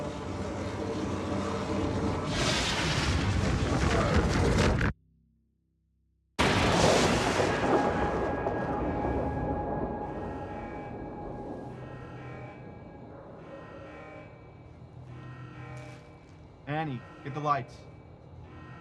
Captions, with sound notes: (portal whooshes and crashes) (alarm blaring) - A.N.I. get the lights.